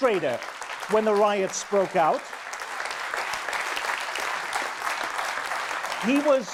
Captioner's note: audience applause